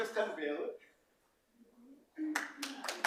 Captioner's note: applause